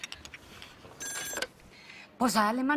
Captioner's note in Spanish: Suena el teléfono